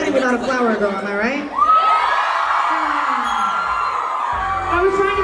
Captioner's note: crowd cheers